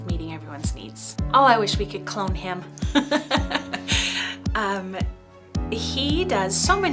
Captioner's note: laughing